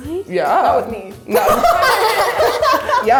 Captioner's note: laughing